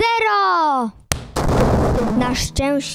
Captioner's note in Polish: buuuuum